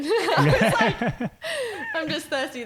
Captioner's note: laughing